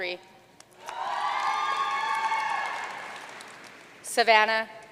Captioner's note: audience cheering and applauding